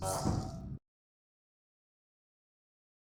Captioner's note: zoooom